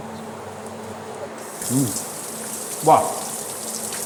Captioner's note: sizzle